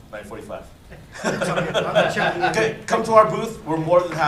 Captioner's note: laughter